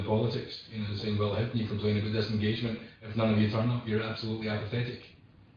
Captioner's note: audio distorts